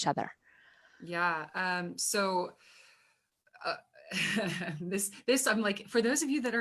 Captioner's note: laughs